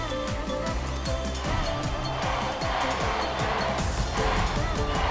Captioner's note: crowd chanting